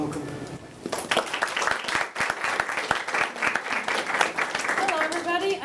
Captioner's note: applause